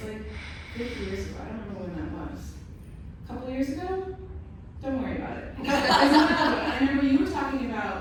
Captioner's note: laughter